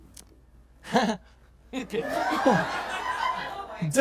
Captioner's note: chuckles